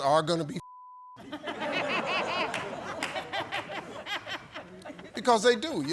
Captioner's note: audience laughs